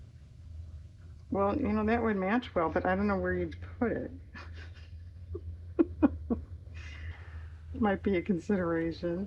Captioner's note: laughs